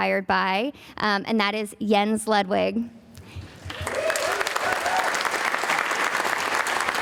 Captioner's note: audience applauding